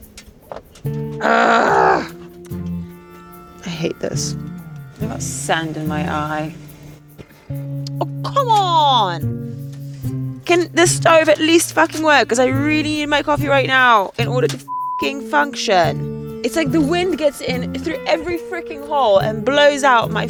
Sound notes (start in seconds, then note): 14.6 beep